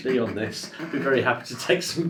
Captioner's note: laughs